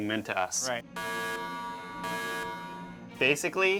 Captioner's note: alarm sounds